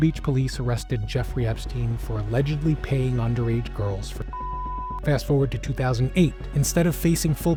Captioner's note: beep